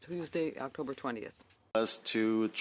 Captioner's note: speaking in French